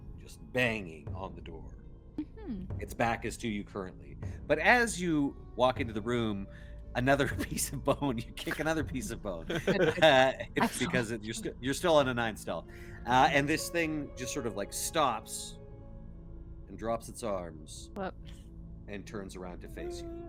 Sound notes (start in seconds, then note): 7.2 laughs; 9.8 Cornette laughs